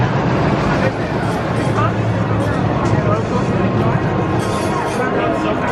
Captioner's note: coaster rumbling; people chattering